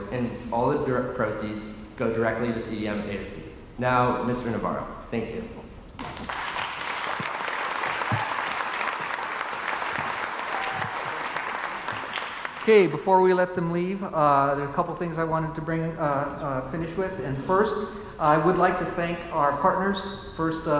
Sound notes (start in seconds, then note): 6.0 crowd applauds